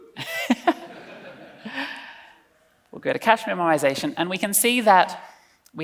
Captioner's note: laughs